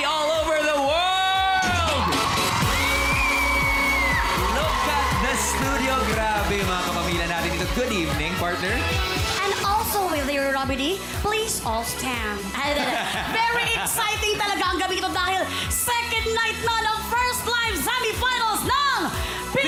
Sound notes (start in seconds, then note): 1.0 audience cheering; 2.0 melai squealing; 12.6 robi laughs